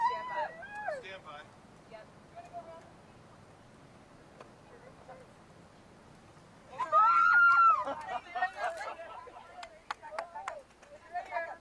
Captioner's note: cheering